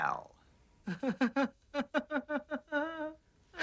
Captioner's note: Wiley laughing; Coyote giggling